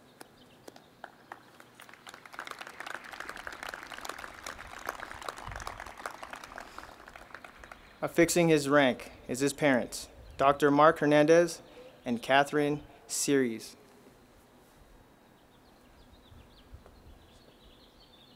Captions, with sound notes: (crowd applauding) Affixing his rank is his parents, Dr. Mark Hernandez and Catherine Cerise.